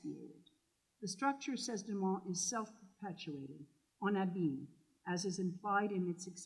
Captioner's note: french